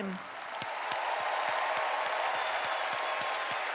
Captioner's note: audience cheers